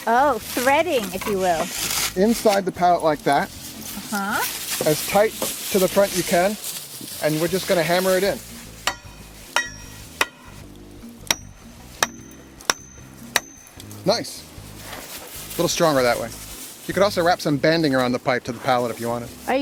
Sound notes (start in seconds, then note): 9.5 clinking of hammer